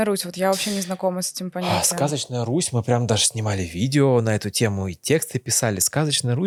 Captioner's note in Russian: фыркает